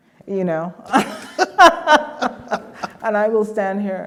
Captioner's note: all laughing